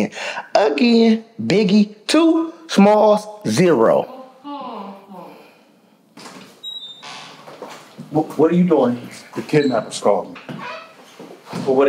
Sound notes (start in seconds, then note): 4.0 Alli groaning